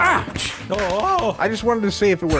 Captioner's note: firework explodes